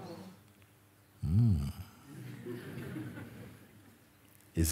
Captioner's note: Lachen